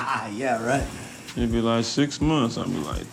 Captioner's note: laughs